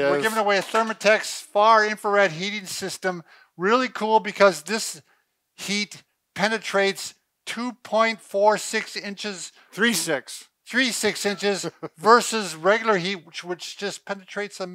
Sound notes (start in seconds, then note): 11.2 laughs